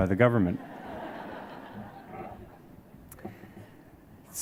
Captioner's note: audience laughs